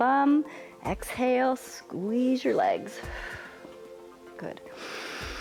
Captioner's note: exhales; inhales